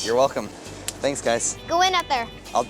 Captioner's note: hands slap